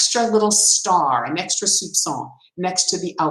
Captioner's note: speaks in foreign language